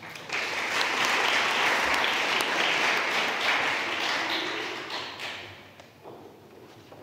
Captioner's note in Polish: oklaski